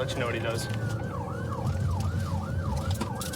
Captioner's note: siren blaring